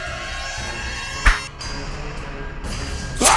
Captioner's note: whip